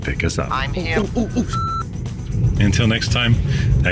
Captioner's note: beep